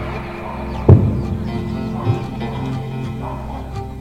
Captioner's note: explosion in the background